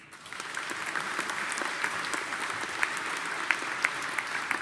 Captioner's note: audience applauding